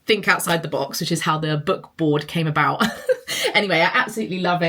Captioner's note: laughs